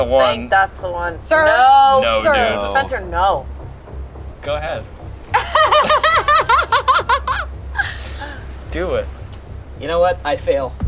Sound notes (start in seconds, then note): 5.3 laughs